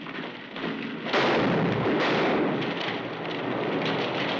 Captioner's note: gunshots